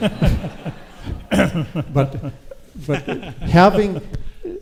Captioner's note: audience laughs